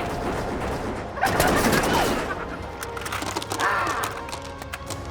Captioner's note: Zeke giggling